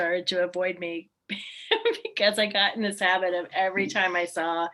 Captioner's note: laughs